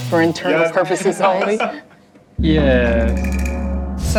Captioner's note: laughs